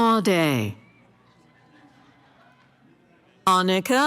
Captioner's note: cheering